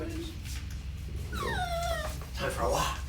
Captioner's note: Luna whines